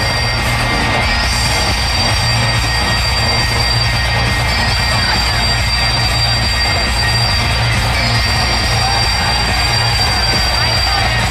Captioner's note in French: Applaudissements